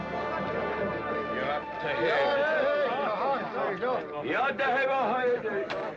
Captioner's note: crowd commotion; crowd; crowd chattering